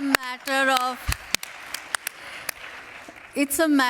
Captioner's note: applause